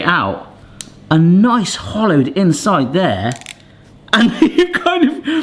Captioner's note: laughing